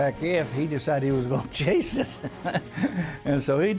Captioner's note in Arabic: يضحك